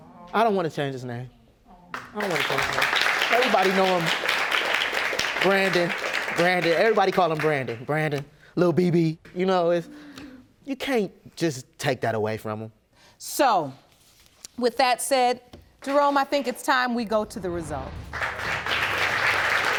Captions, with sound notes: I don't want to change his name. I don't want to change his name. (AUDIENCE APPLAUDING) Everybody know him, Brandon, Brandon. Everybody call him Brandon. Brandon. Little BB you know... You can't just take that away from him. So, with that said, Jerome I think it's time we go to the results. (AUDIENCE APPLAUDING)